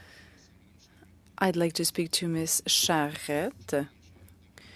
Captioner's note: speaking French